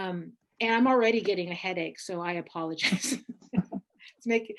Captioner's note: laughs